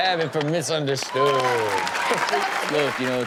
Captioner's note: audience applauds and cheers